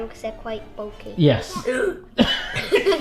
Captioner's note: laughing; grunts